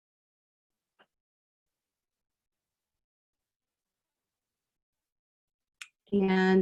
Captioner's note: silence